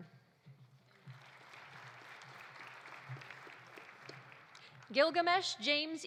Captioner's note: audience applauding